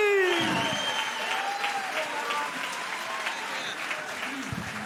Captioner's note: crowd cheering